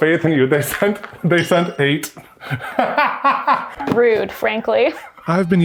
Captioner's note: laughs